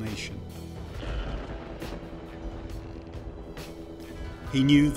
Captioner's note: thunder rumbles